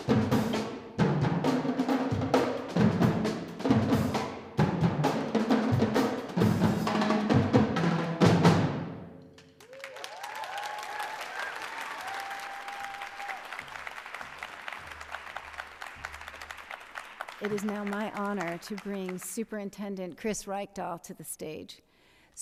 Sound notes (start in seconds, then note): 9.3 cheers and applause